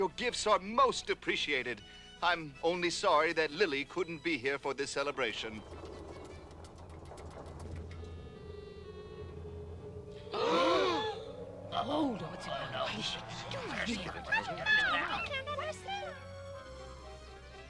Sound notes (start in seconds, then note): 5.9 rumbling; 10.2 gasping; 12.6 overlapping chatter